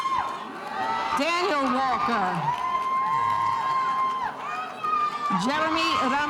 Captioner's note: spectators cheering